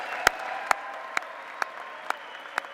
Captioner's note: applause